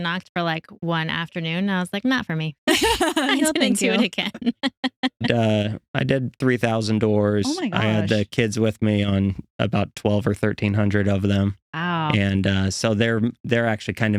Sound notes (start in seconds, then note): 2.7 laughing